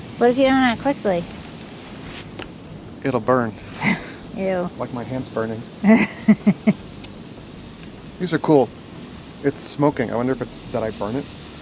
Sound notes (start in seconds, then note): 5.8 woman laughing